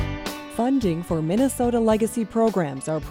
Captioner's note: voiceover